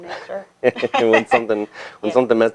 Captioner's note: laughs